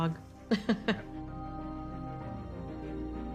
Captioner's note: chuckling; mysterious melody building